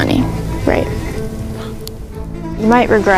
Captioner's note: sighs